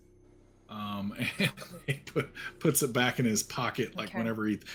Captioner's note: laughing